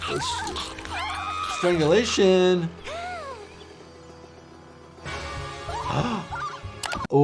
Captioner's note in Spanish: Petunia grita; Lammy jadea